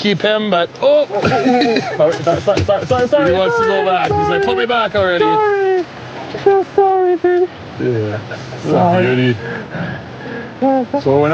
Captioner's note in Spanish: risas